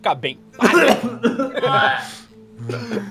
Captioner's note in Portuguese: Tosse forte